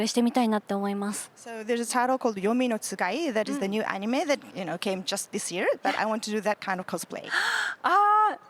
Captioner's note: interpreter’s translating in Japanese